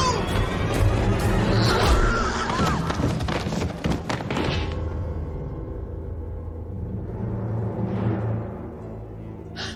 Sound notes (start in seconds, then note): 1.5 screaming; 8.3 gasping